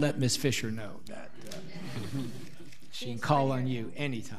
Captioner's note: audience laughing